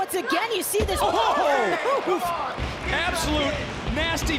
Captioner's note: commentators exclaim